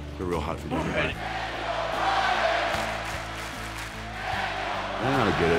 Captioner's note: applause